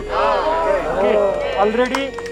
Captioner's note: applause